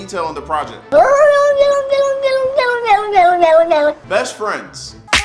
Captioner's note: cat meowing that sounds like "no"